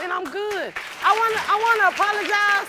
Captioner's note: audience applauding